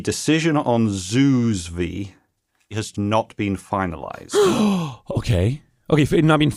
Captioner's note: gasps